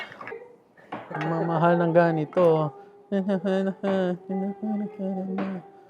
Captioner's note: hums